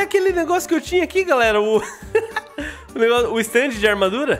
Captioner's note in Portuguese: Risos